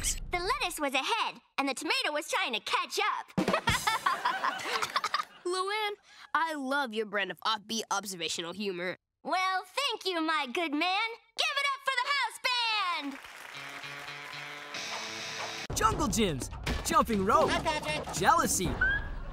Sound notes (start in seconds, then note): 3.7 laughing; 13.0 applause